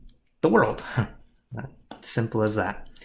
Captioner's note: laughs